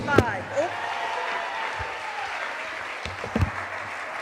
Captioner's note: cheers and applause